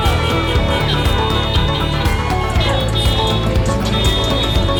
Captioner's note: crowd cheering